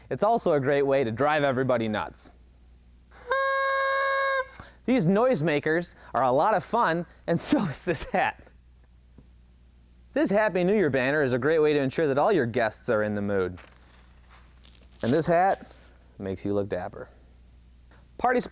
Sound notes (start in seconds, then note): 3.1 blowing noisemaker